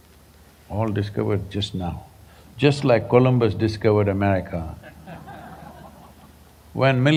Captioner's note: laughter